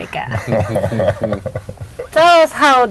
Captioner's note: chuckling